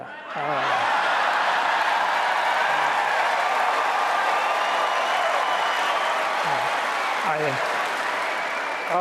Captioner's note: applause